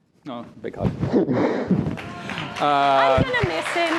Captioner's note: applause